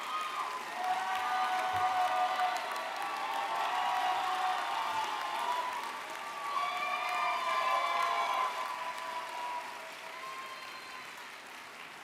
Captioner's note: cheers and Applause